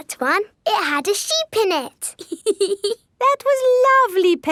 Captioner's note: laughs